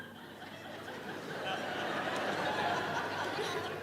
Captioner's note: audience laughing